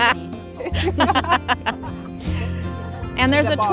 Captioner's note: laughter